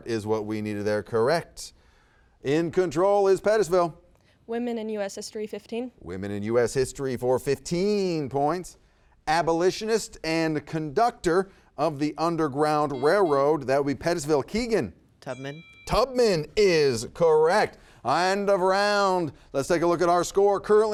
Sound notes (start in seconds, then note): 12.9 buzzer beeps